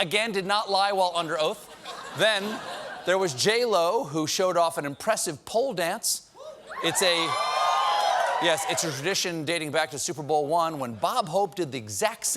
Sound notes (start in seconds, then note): 6.7 cheers and applause